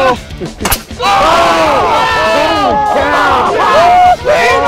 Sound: all shouting

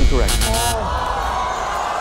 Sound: audience groans

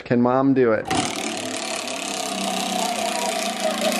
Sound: wheel turning

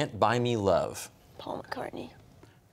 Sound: quietly

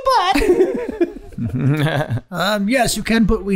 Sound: Rob and Glenn laughing

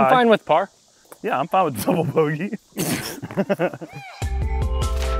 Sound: laughs

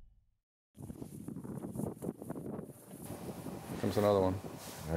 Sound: wind blowing tarp; voiceover

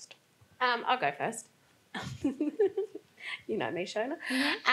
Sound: laughs

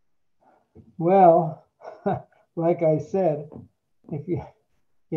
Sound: chuckles

